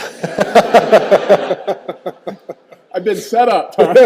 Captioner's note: all laughing